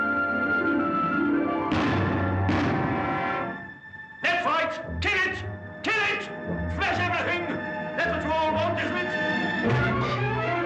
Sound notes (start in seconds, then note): 1.7 gun firing; 9.2 music intensifies